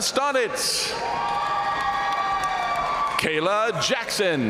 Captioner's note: audience cheering and applauding